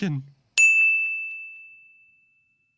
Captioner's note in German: Ding